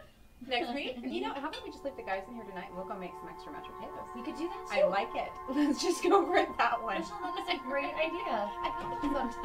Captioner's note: muffled conversation